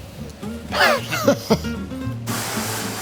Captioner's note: laughs